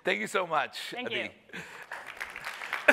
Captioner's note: applause